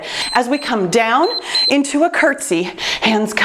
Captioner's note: timer beeps